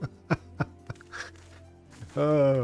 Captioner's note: laughs